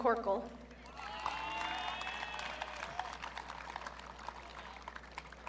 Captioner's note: audience cheering